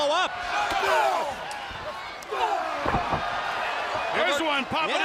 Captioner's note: crowd cheering